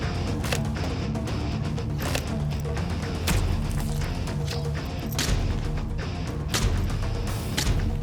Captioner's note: rock music; blade impacts